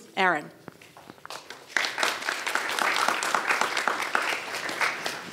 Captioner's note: audience applauds